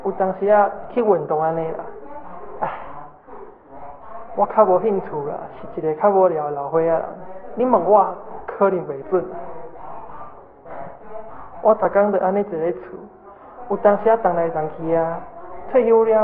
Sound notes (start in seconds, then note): 0.0 Taiwanese; 11.5 Taiwanese